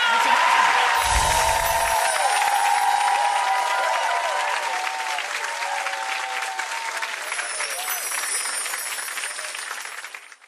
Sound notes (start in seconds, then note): 1.6 audience cheers; 7.2 tinkling chimes